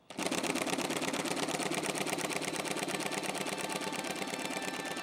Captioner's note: sewing machine clattering; sewing machine rattling; suspenseful music